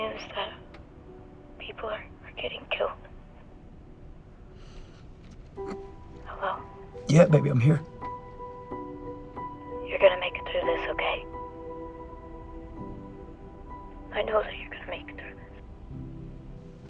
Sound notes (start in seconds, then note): 7.0 sobs quietly